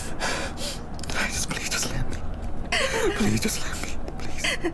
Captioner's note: whispering